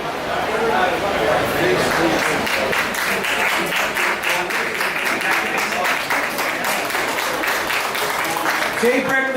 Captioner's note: applause